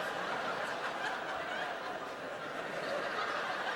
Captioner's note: laughter continues